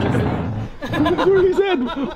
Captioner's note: laughing